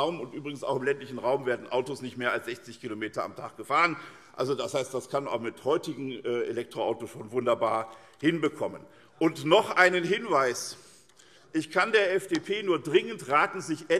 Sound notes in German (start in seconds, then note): none